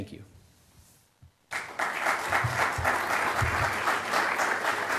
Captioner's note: applause